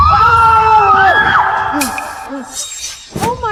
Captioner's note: screaming; gasping